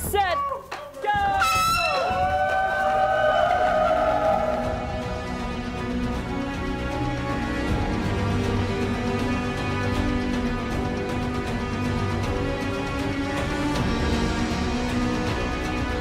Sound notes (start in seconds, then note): 1.4 air horn signifying start; 2.9 crowd cheering